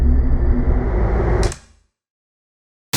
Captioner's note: click